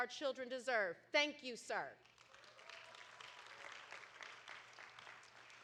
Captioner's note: audience applauding